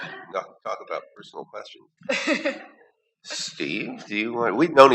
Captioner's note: laughter